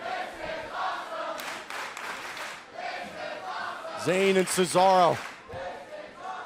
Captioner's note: crowd cheering